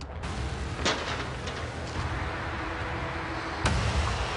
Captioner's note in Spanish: Ruido en la puerta